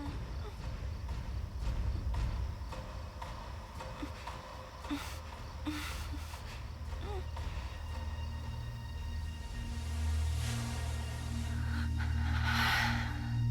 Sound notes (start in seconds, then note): 3.8 moaning; 10.8 tense music